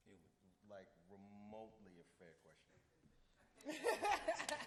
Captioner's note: laughs